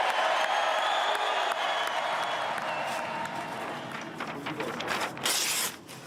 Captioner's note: cheering